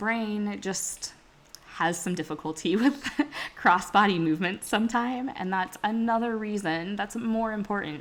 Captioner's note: laughs